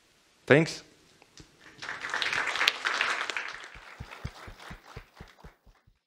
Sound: applause

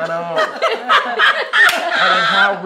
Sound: all laugh

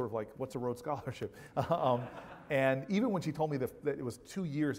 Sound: laugh

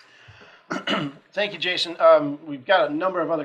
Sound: clears throat

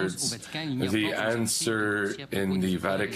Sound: speaking French

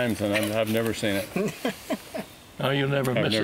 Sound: laughter

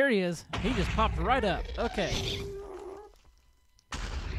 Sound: explosion; ghast shrieks

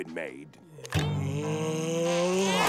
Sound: groaning; vacuum cleaner sound

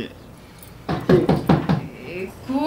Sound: knocking at the door

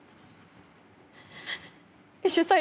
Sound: breathing shakily

